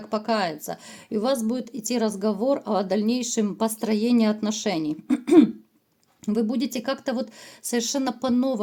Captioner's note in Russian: откашливается